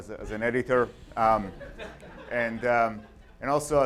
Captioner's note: audience laughs